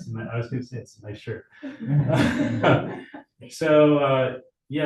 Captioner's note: chuckles